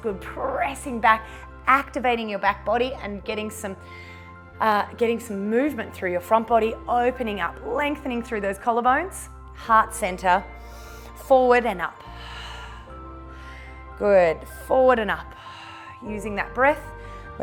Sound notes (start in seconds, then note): 12.0 exhales; 15.3 exhales